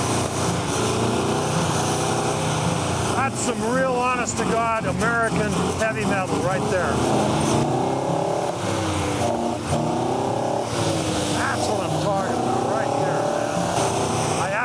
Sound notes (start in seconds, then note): 0.3 car engine roaring; 7.1 car engine roaring